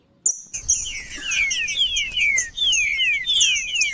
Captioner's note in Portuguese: trinca ferro cantando